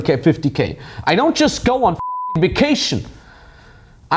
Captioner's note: beep